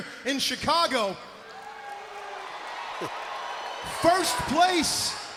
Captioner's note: crowd cheering